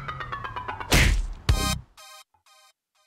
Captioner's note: splat